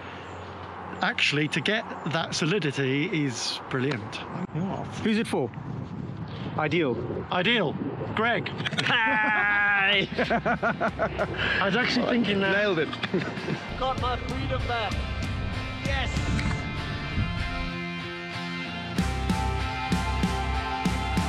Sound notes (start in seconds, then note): 8.5 chuckles; 18.3 inspiring music